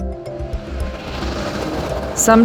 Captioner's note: bright contemplative music; traffic hums